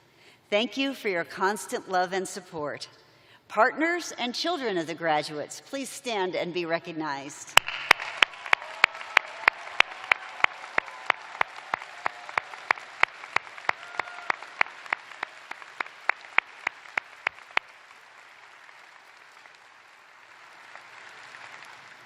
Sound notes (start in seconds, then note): 4.1 cheers and applause